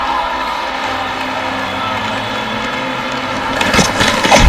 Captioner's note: cheering